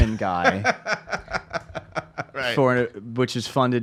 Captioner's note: laughs